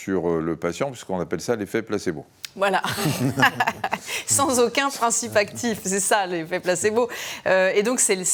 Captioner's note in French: rires